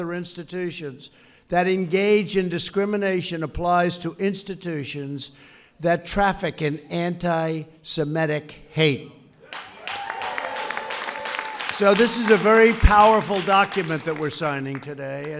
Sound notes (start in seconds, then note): 9.5 applause